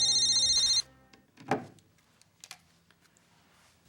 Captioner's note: phone rings